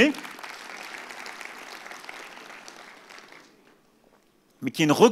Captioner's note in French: Applaudissements